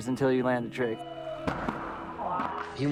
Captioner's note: loud crack followed by yelling